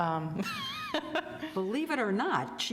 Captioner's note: laughs